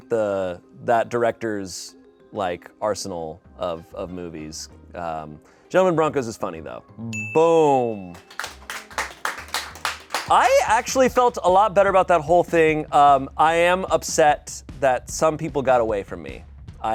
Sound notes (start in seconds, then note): 7.1 bell dings; 7.8 people applaud